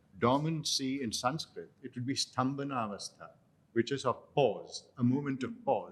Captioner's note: non-english